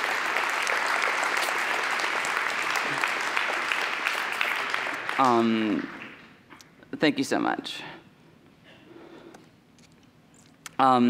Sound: cheers and applause

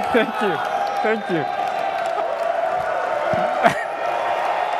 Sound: loud Cheering

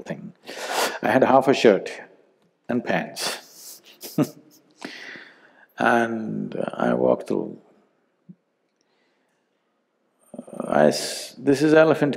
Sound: laughs

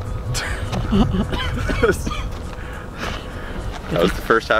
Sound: laughing and coughing

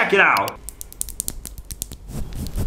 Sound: tapping; brushing

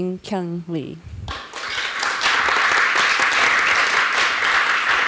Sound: applause

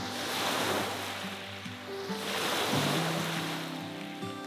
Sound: waves rippling

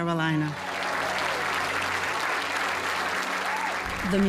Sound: audience applauds

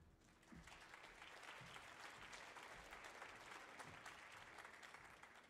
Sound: audience applauding

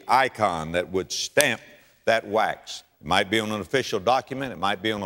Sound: slap

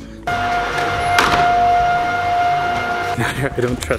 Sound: door slams closed

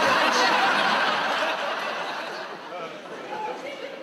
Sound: audience laughs

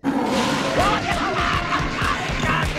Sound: screaming

